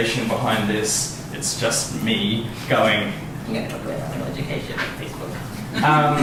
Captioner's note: silly voice